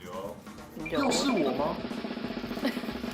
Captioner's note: scared